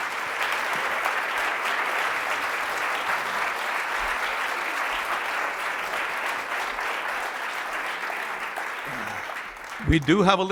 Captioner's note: applause